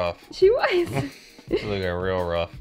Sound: both laugh

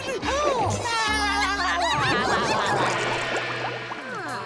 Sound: giggling

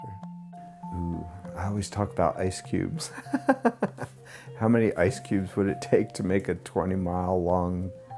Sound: laughs

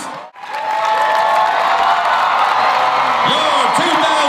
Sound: audience applauds and cheers

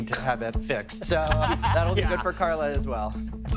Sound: laughing

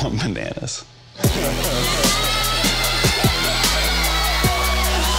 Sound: audience cheering

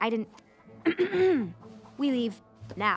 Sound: clears throat

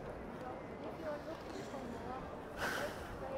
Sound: people speaking in the background; taking in a deeeeep breath; people speaking in the background

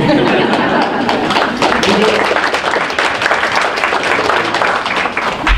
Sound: group laughs and applauds

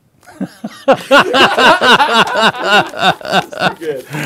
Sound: laughter

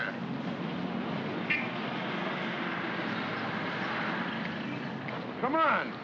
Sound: city street sounds

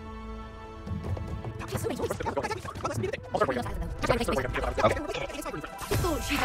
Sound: sped up dialogue

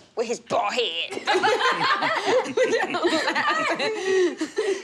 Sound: laughter

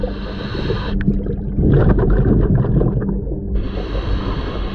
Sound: water bubbles; breaths in

